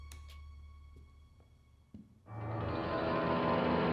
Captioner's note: light clicks on